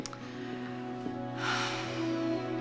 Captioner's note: sighs